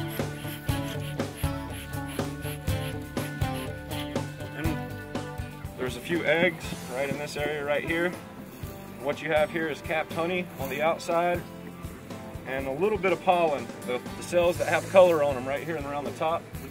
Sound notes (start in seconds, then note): none